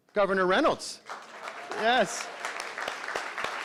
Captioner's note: crowd clapping